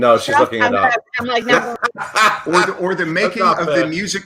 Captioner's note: laughs